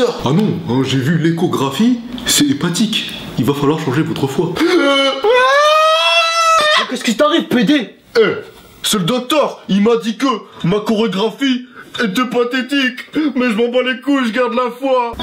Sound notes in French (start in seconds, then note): 4.6 pleure